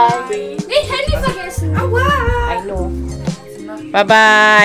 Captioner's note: speaking German